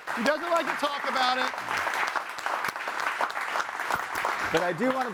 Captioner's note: audience applauding